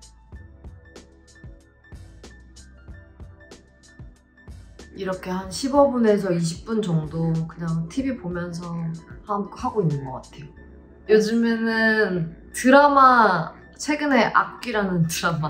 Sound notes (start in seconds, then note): 4.9 speaking in Korean